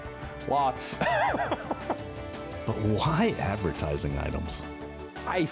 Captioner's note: laughter